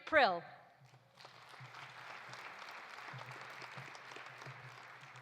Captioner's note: audience applauding